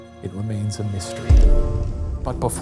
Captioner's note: text thudding